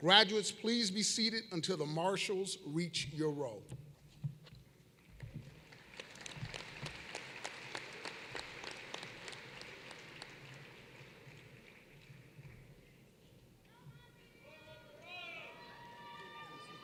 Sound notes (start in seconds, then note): 5.4 applause